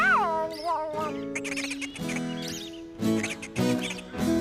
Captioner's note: chattering